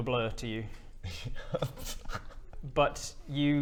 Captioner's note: nervous giggles